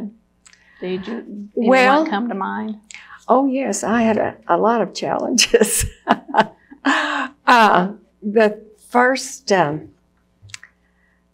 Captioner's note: laughs